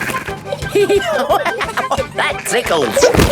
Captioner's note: giggling; laughing